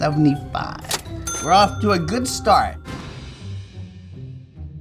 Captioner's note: cash register rings